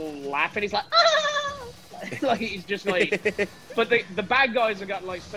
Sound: laugh

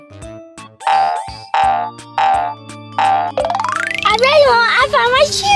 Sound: quick tapping; feet boinging

